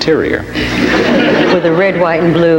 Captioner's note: audience laughs